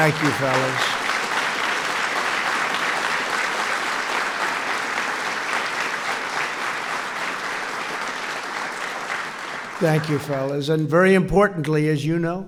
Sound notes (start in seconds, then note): 0.0 applause